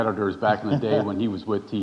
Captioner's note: chuckling